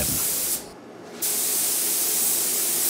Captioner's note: spraying